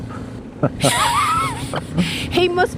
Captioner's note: laughing